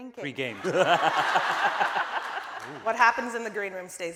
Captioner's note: laughing